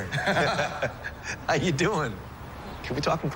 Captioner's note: laughs